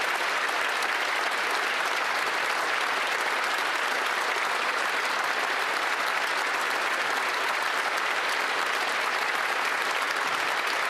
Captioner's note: applause